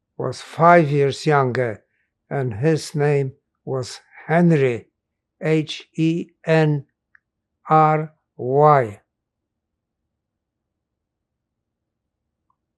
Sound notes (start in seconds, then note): 9.1 pauses 6 seconds